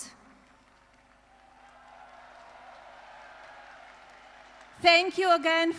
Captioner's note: applause